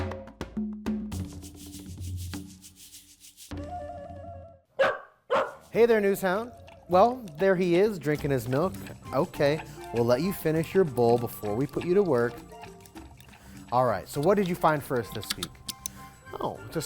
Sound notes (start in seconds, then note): 0.0 playful music; 4.7 dog barking